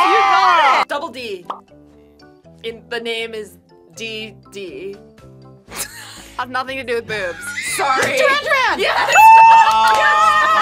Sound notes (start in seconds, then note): 7.3 laughs